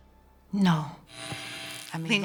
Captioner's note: electical whirring followed by artwork audio